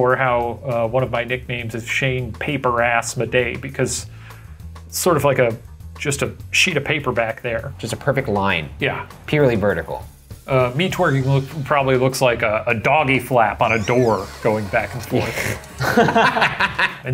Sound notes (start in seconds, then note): 13.6 door creaking; 15.2 laughing